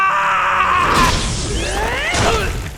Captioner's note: Kuradeel screams; explosion; Kuradeel grunts